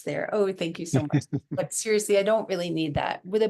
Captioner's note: laughing